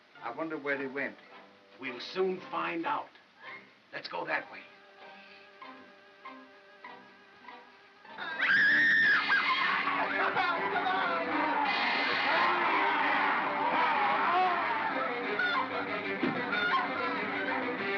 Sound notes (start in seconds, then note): 4.6 soft ominous music; 8.2 suspenseful music; 8.3 Bo Peep screams; 9.4 bogeymen growling; 13.3 suspenseful music; 14.9 Bo Peep yelps; 14.9 suspenseful music